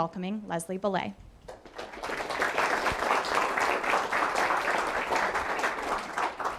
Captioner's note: audience applauding